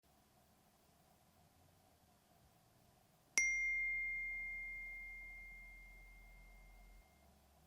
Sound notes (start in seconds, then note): 3.4 phone dinging